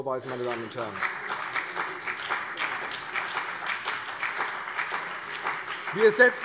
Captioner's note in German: Beifall CDU und BÜNDNIS 90/DIE GRÜNEN